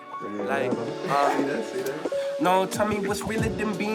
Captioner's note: laughing